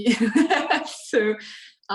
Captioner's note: laughs